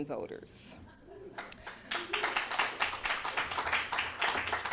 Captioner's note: applause